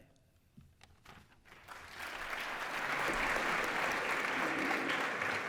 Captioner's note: applause